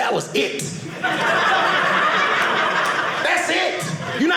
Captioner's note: audience laughing